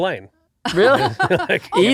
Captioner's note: laughing